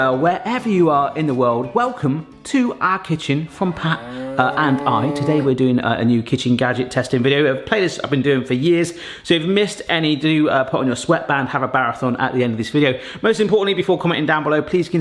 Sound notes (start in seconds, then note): 3.6 cow mooing